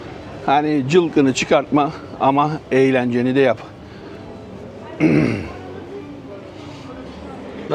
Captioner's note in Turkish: boğazını temizler; öksürme